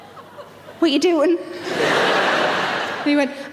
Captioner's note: audience laughs